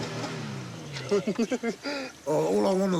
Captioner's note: engine revs; both laugh